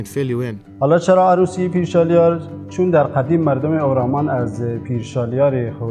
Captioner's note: speaking foreign language